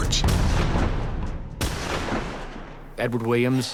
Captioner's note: gunshot